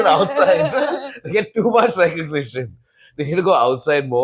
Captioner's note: laughs